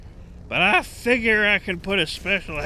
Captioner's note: muttered